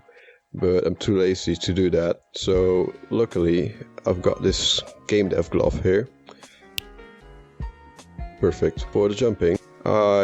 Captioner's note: snap